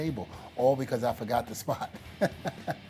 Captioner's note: laugh